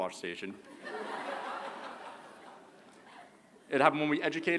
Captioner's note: laughter